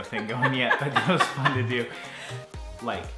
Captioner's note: laughter